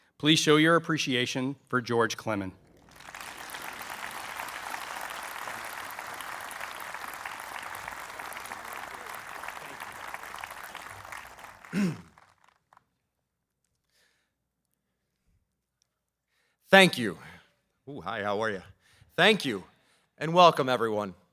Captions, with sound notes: Please show your appreciation for George Clemen. [APPLAUSE] Thank you. Hi, how are you? Thank you and welcome everyone.